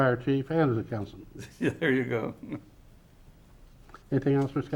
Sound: chuckling

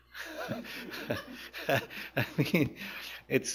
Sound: chuckles; laughter; laughs

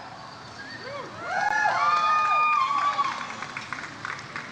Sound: audience cheers

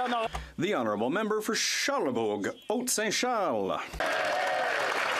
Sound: some Applause

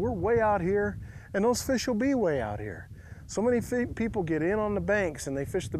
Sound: none

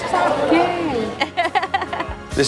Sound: laughs

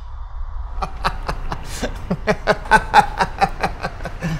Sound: laughing

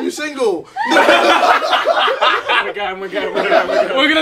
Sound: laughing

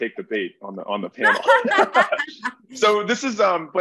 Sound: group laughing

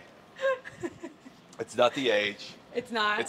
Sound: laugh

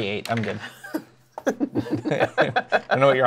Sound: laughter

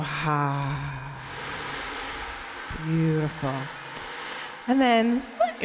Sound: exhales

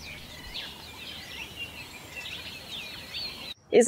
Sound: birds chirping

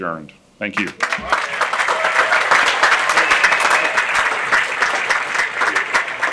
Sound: audience applauding and cheering

